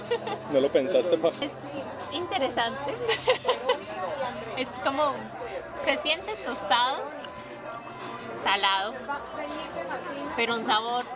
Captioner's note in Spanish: risas